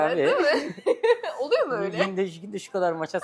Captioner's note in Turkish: kahkaha